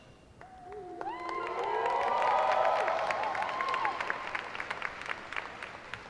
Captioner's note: applause